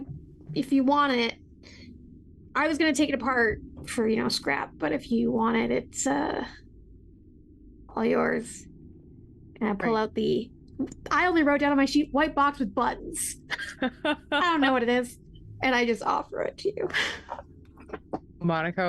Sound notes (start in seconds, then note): 13.5 laughs